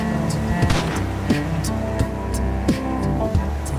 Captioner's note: gunshot